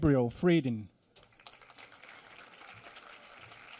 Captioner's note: applause